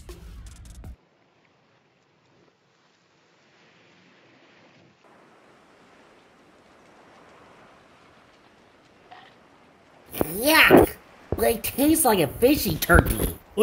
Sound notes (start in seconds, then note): 1.2 ocean sounds; 4.9 fire cracking